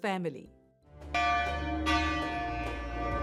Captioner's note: bell ringing